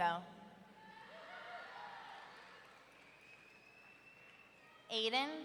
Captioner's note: audience cheering